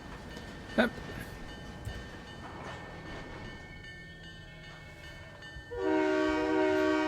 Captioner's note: train whistle